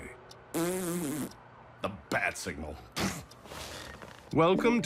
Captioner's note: blows raspberry; scoffs